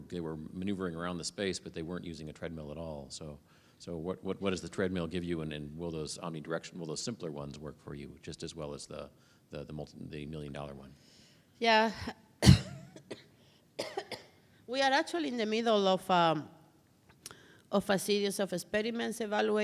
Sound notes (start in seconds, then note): 12.4 coughs